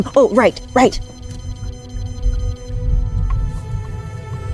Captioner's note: bat detector sounds increasing